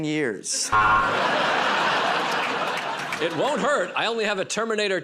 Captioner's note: buzzer